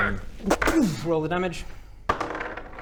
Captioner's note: pooofh